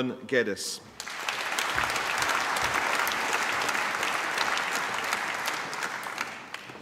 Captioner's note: applause